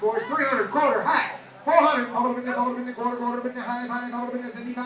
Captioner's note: auctioneer mumbling out prices